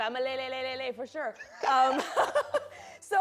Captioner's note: laughs